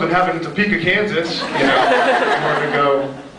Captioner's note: laughs